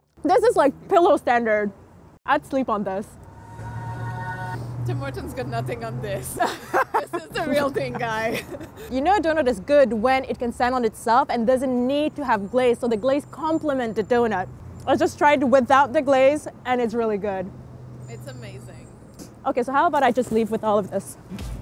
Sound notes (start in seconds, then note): 3.4 heavenly choir sings; 6.4 laughing